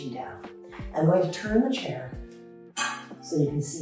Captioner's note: metal chair clangs